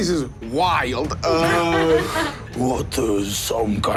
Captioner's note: Sofia laughs